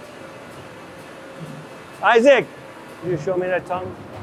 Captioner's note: machines whirring